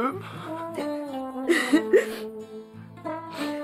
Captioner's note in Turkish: Ağlama sesi